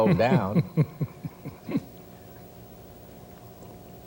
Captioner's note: laughs